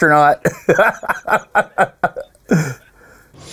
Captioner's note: breaks out laughing